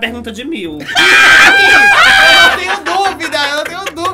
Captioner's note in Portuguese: risos